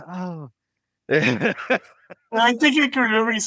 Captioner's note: laugh